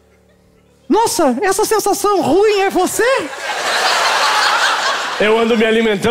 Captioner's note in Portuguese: voz fina